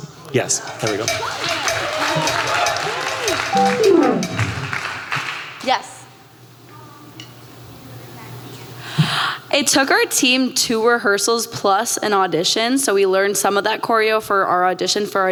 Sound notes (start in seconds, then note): 0.8 applause